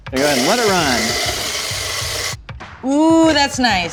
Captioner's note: grinding